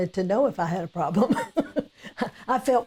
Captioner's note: laughing